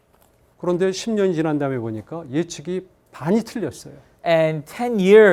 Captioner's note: speaking in Korean